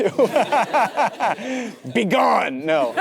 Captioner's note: Timothée laughs; audience laughing; Matthew & audience laughing